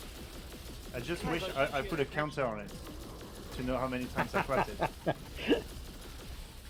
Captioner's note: laughter